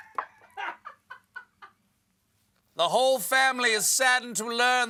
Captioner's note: laughter